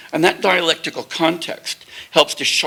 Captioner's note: none